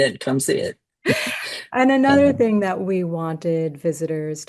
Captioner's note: gasps